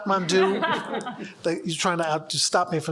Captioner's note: audience laughs